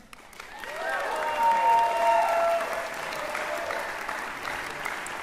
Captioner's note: applause